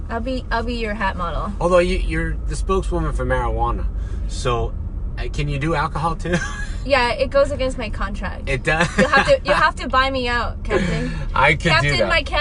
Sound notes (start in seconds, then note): 6.5 laughs; 8.8 laughs